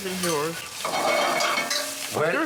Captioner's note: spatula scrapes